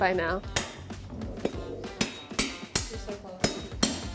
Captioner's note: smacking